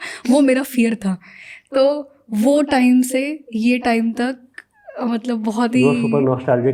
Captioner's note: speaking in Hindi